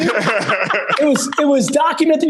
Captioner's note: laugh